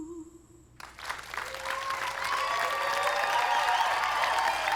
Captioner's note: applause